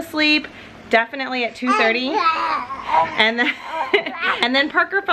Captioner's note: groaning